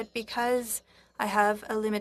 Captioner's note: speaking French